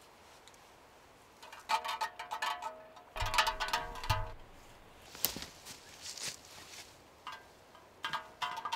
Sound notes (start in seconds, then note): 3.1 beer can rattling